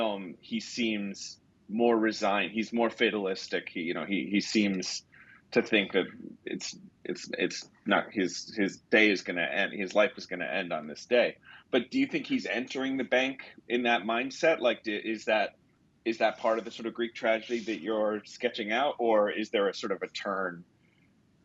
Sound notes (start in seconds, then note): none